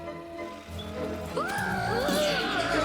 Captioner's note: screaming